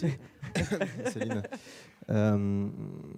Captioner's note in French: rires